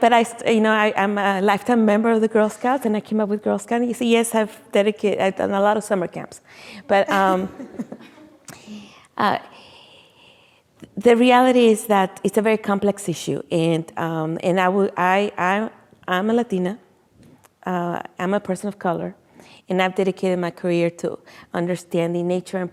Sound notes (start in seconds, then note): 6.8 laughing